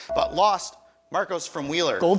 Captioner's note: buzzer chimes